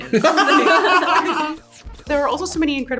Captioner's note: laughter